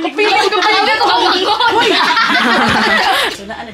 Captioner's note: both are laughing